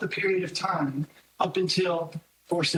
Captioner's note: none